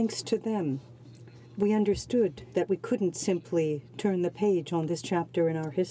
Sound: speaking French

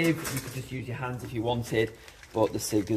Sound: soil shuffling

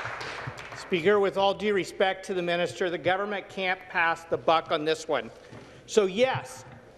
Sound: applause

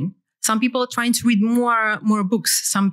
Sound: none

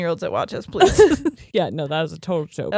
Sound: both laughing

